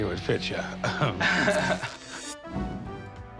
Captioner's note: laughter; fabric rips